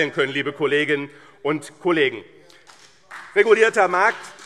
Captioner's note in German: Beifall BÜNDNIS 90/DIE GRÜNEN und CDU - Zurufe SPD und DIE LINKE